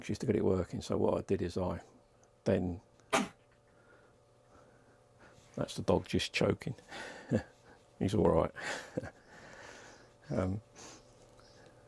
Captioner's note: dog coughing